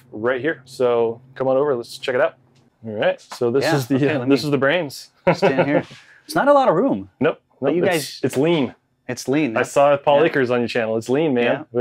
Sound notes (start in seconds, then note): 5.2 chuckles